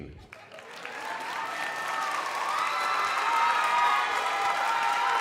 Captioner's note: crowd cheering and applauding